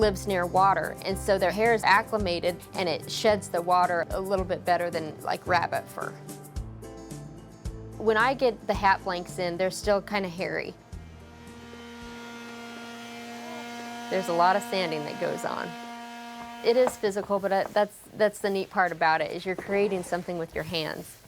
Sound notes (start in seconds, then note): 11.0 sander whirring